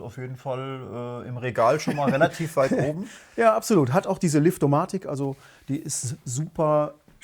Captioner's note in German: gelächter